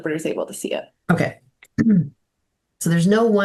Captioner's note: clears throat